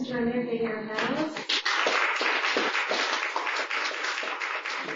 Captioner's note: applause